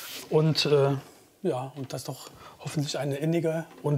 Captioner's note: none